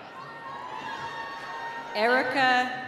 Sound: cheering

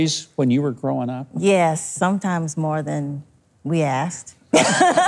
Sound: laughs

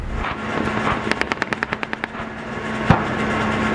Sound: gunshots

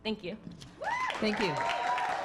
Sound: crowd cheers

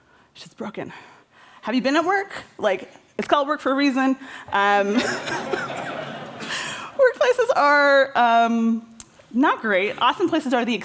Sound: laughter

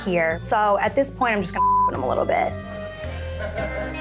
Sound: beep

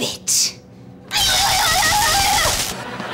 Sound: screaming

